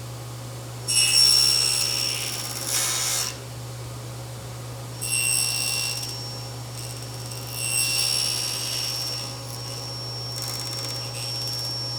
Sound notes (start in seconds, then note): 0.8 saw whirring; 6.8 saw whirring